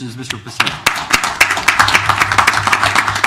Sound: applause

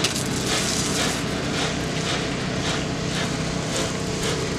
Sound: water spraying

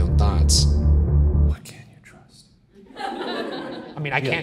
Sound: whispering

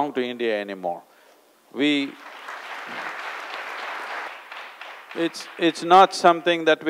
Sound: applause

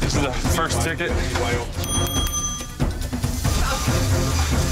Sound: dinging

